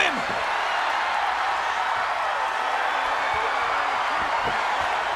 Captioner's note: crowd cheers